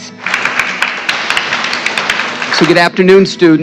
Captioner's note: applause